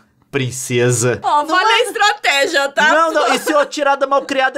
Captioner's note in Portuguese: risada